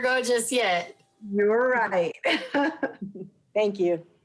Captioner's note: laughs